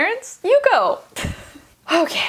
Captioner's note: laughs